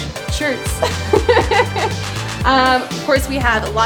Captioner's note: laughing